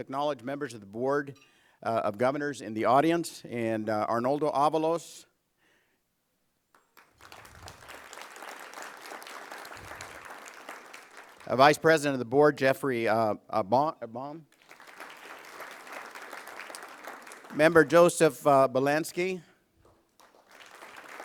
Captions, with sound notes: I WOULD LIKE TO ACKNOWLEDGE MEMBERS OF THE BOARD OF GOVERNORS IN THE AUDIENCE, AND ARNOLDO AVALOS. [ APPLAUSE ] - VICE PRESIDENT OF THE BOARD GEOFFREY BAUM. [ APPLAUSE ] - MEMBER JOSEPH BIELANSKI.